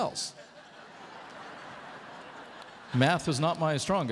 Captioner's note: laughter